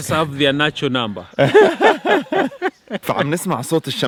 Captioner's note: laughter